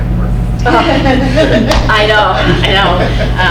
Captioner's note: crowd laughs